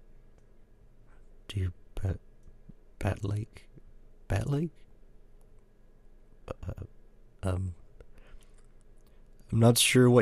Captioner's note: contemplation noises